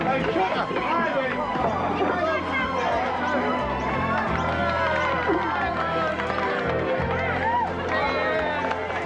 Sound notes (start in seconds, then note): 2.0 dramatic music; 5.2 crowd cheering